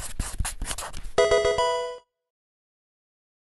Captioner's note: marker scratching; electronic video game chime